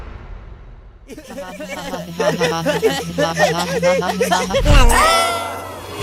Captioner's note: Pen, Bottle, and Remote laughing